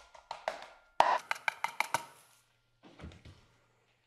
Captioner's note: knock